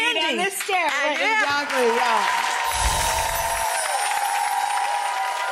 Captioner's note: audience applauds